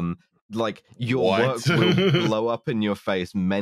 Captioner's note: laughs